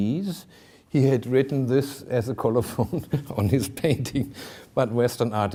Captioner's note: chuckling